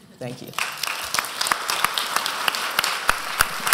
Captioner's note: applause